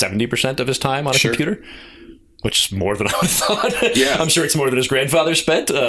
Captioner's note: laughter